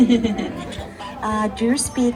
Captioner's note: laughs